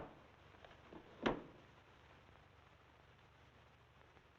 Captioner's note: drawer rattling